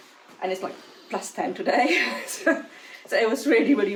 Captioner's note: laughs